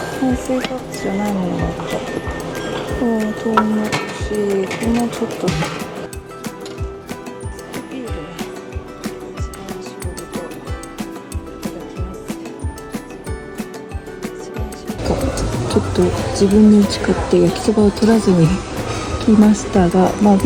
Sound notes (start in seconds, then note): 14.9 laughs